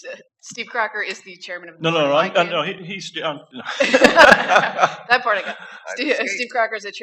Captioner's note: laughter